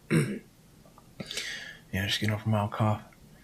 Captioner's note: clearing throat